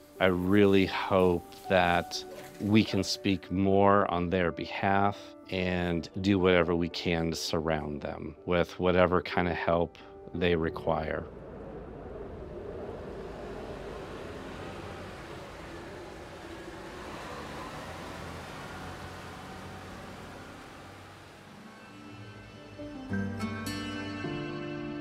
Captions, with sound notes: I really hope that we can speak more on their behalf and do whatever we can to surround them with whatever kind of help they require. (engine hums) (gentle music)